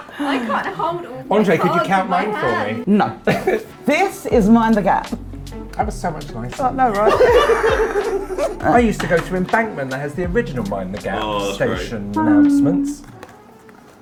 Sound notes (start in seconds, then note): 7.0 laughs